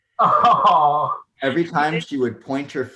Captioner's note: laughing